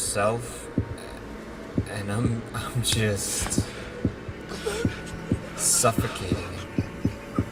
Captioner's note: gasping; heart beating